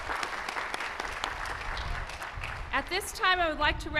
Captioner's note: cheers and applause